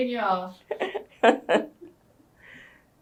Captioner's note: laughs